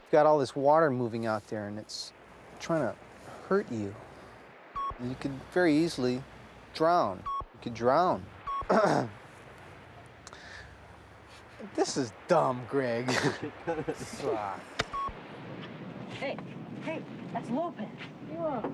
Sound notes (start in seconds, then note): 8.6 clears throat; 13.0 laughing